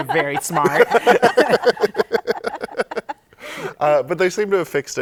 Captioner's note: laughter